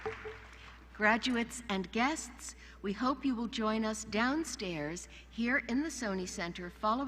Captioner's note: applause